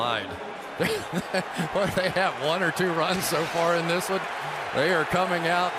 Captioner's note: laughs